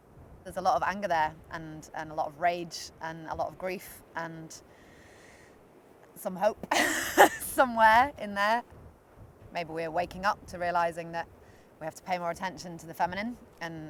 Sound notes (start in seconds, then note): 6.7 laughs